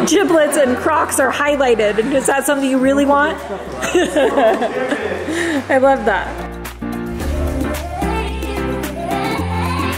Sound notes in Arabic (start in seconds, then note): 3.8 تضحك; 7.1 موسيقى هادئة